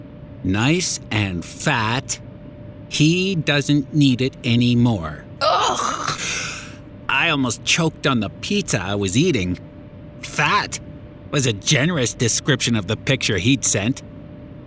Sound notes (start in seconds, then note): 5.4 choke